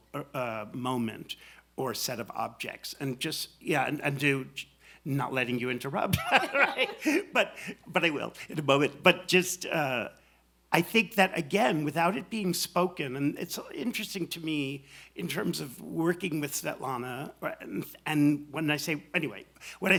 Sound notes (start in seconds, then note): 6.1 laughs